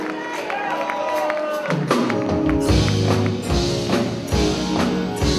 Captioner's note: applause